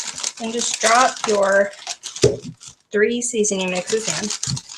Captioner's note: thump